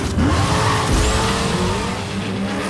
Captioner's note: engine revving